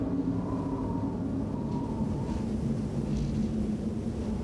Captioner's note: wind howling